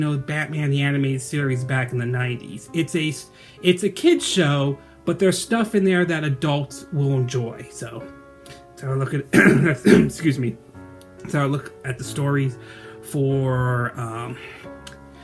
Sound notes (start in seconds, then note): 9.3 coughing